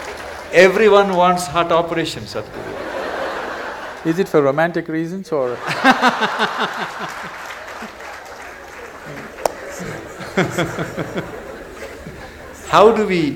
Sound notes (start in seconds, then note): 2.5 laughter; 8.7 laughter/Applause